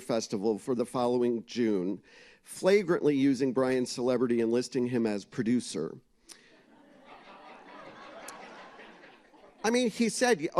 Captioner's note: laughter